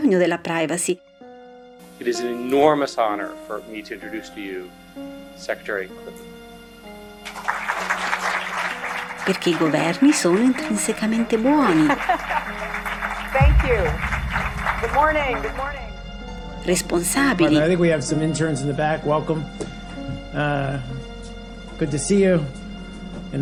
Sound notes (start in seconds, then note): 6.8 applause